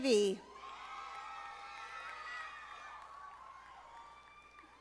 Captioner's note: audience applauding